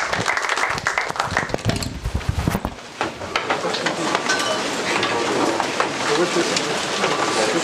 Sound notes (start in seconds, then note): 3.2 background chatter